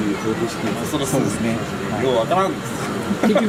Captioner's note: laughs